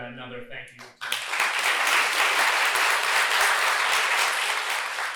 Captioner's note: applause